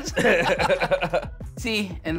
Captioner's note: laughter